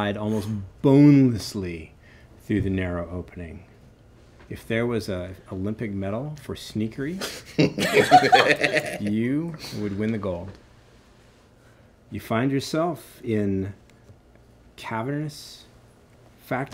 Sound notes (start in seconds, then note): 7.6 laughing